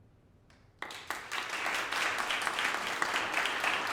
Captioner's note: applause